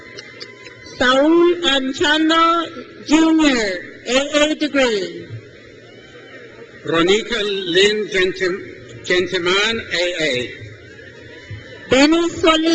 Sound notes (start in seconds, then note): 5.5 crowd cheers; 10.2 crowd cheers